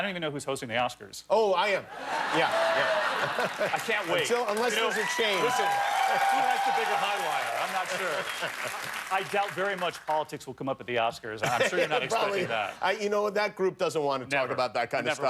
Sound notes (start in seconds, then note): 6.1 laughter; 6.4 cheers and applause